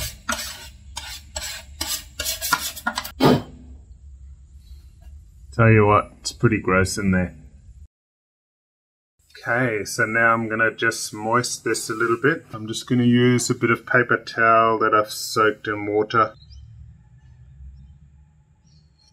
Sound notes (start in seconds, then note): 0.0 brush scratching; 3.3 air whooshes